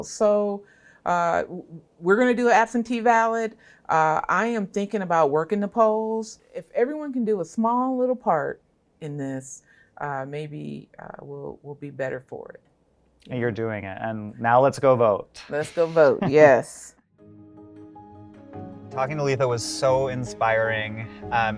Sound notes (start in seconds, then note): 15.5 chuckling; 17.1 soft instrumental music